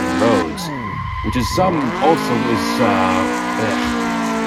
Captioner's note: struggles to say words